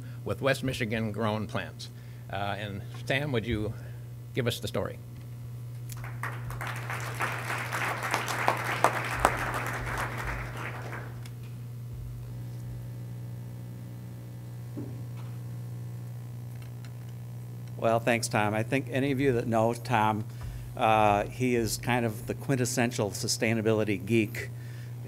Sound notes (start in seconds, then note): 5.8 applause